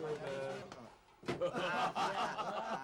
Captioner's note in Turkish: kahakaha sesleri̇